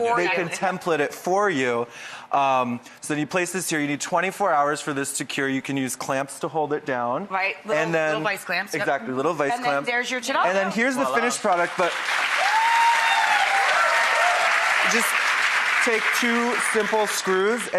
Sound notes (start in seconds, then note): 11.2 applause